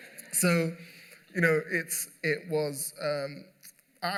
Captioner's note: laughter